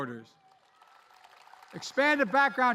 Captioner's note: applause